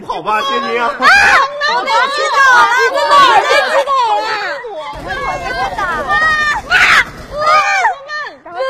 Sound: chaotic screaming!

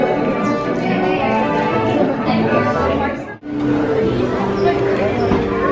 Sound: chatter

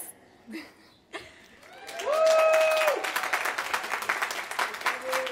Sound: applause

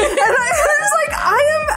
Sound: laughs

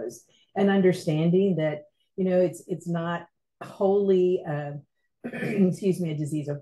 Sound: clears throat

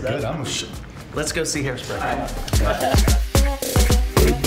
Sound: laughs; upbeat music

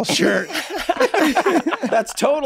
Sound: all laughing

